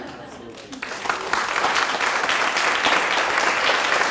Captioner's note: clapping